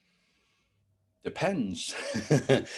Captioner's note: laughs